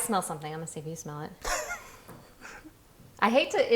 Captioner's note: laughing